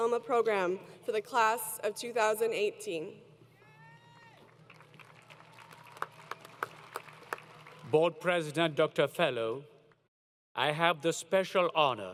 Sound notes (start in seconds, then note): 4.1 applause